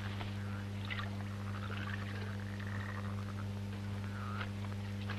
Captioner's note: water splashing